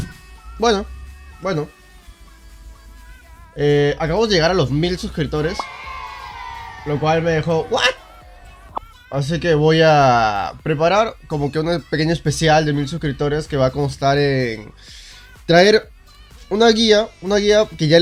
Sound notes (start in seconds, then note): 5.4 cheering sounds